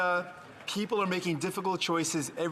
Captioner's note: some Applause